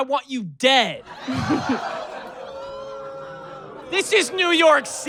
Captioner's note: mixed audience laughter and groans